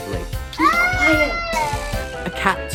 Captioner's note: baby cries